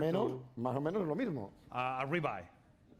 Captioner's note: speaking spanish